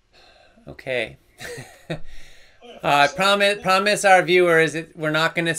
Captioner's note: laughs